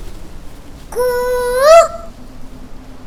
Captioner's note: Mimicking Cuckoo's voice